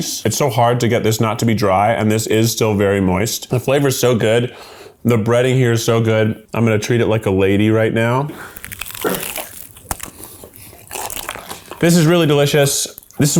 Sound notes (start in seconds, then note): 8.4 crunching